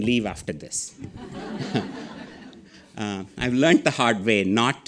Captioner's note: audience laughing